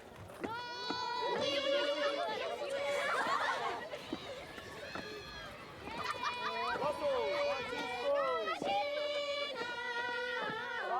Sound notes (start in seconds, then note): 0.9 children Chattering, Laughing